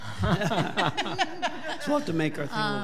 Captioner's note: all laughing